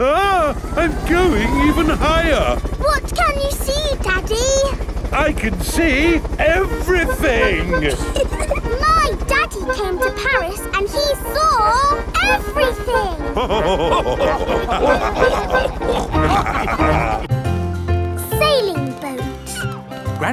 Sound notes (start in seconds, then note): 6.8 chuckles; 12.1 all laughing